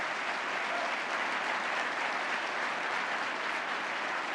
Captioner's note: applause